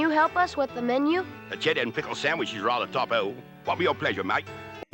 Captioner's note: dodgy British accent